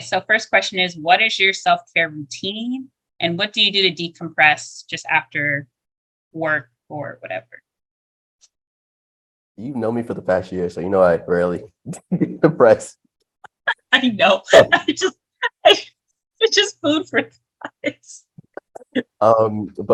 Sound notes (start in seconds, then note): 12.7 laughter